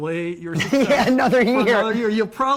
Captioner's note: laughing